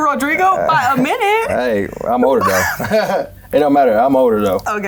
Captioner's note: laughs